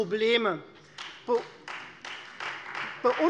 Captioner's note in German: Beifall Freie Demokraten